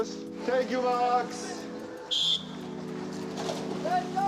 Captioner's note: whistle trills